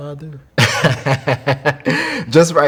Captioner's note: laughing